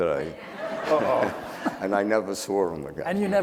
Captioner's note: audience laughing